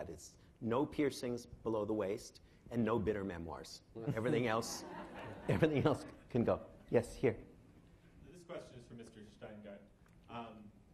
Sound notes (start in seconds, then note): 4.1 laughing